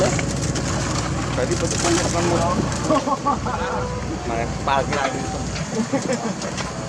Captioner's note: rumble